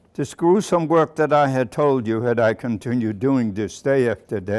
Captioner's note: none